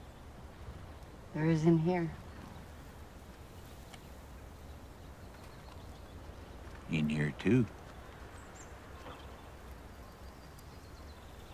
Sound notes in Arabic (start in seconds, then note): none